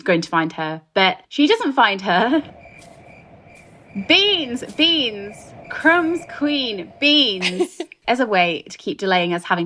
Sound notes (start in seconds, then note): 1.9 crickets chirping